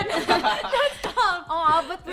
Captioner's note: laughter